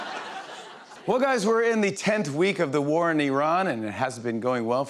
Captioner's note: as Trump; laughter; normal voice